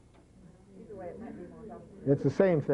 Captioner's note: brouhaha